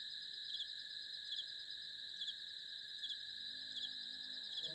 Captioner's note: crickets Chirping Continues